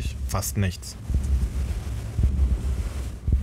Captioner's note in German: Rauschen; Angespannte Töne